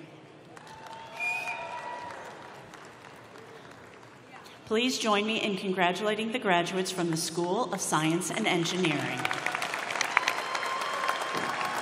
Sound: applause

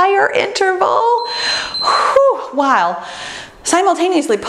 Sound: timer beeps

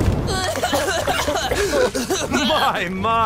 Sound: guys coughing

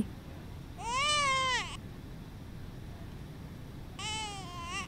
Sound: baby cries

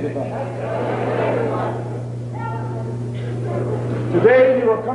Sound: murmuring

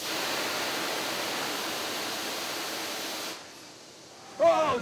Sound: hissing sound

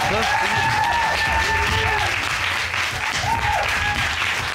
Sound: audience cheers, applauds

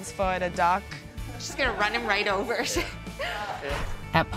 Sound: laughing

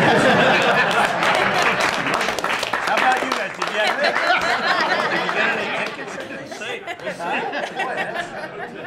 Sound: laughter

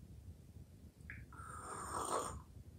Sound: slurping sound

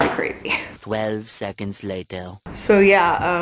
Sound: french Accented Voice

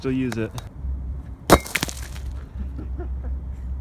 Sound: anvil impacts stone; muffled laugh

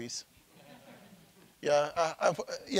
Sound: audience laughing

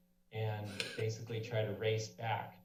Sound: sneezes

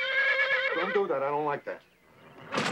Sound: horse whinnies

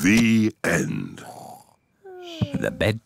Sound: both snore

